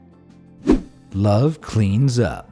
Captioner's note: air whooshing